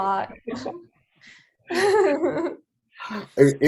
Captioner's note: laughing